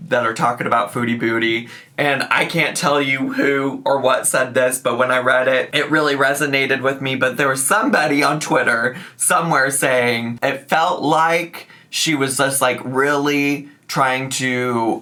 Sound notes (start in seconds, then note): none